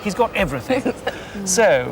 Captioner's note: laughing